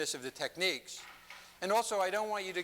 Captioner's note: none